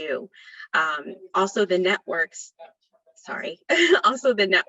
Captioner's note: chuckles